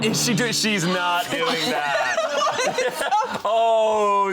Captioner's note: laughs